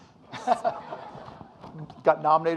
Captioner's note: audience laughing